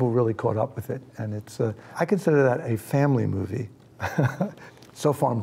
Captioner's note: chuckles